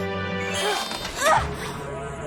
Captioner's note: grunts